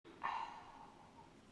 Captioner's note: breath